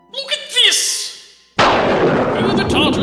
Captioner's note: thunderclap